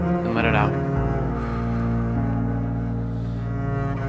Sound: exhale

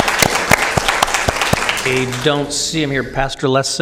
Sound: applause

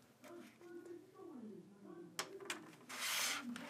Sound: muffled television upstairs

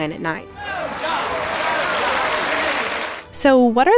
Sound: cheers and applause

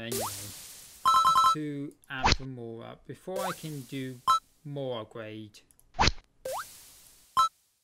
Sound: tuna collecting sound

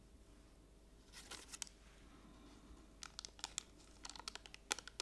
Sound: rustling

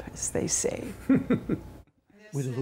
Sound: laughter

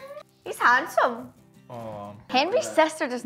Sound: none

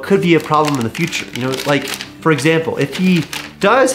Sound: paper rustling

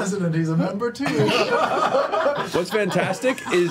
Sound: all laugh

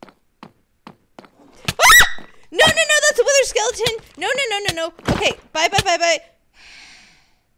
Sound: screams; exhausted sigh

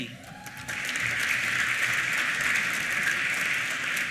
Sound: applause

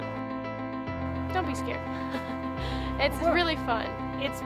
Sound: chuckles

